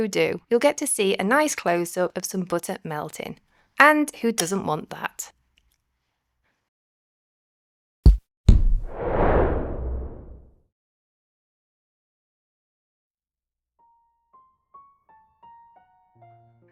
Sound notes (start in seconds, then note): 8.5 thud - whoosh; 13.8 piano music